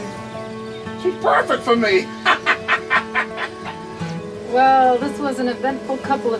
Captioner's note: laughs